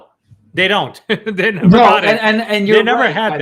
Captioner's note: chuckles